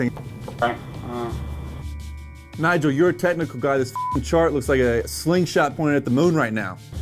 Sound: beep

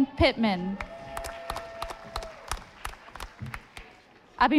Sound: audience applauding

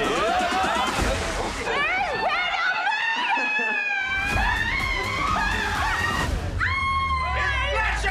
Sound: people yelling

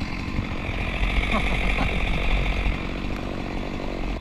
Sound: laughing

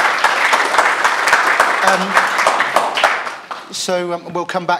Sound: applause

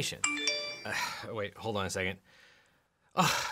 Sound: mobile pinging

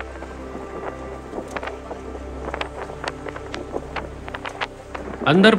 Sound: wind blowing

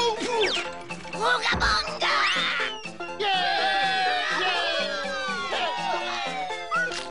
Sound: cheering

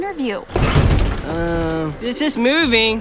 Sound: elevator rocking

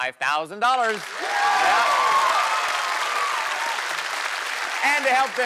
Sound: cheers and applause

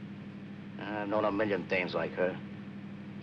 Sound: scoffs

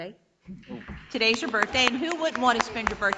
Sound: audience applauding

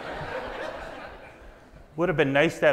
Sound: audience laughs

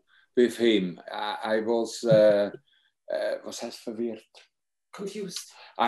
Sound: speaking in foreign language

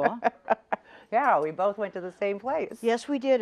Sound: laughs

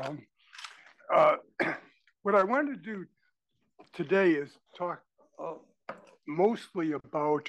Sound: cough

